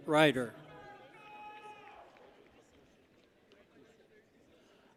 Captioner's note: people cheer